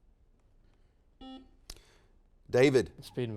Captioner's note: buzzer dings